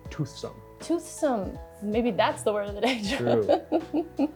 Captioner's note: laughs